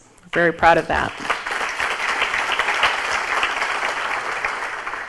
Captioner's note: audience applauds